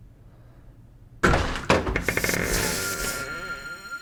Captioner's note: door opens